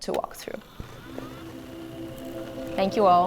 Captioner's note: whirring